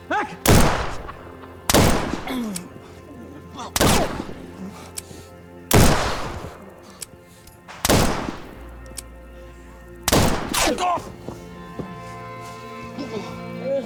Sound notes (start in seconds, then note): 1.6 gunshots banging; 2.2 Bill groaning; 10.8 Chris groaning